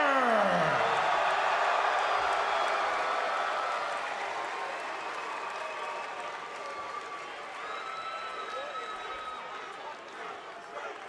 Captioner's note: crowd cheering